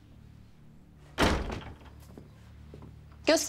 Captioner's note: the door closing sound